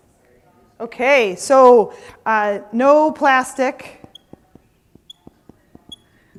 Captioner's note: marker squeaking